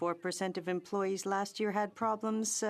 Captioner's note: speaking French